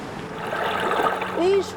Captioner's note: whirlpool whizzing